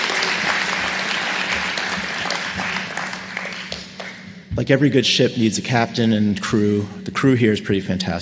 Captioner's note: applause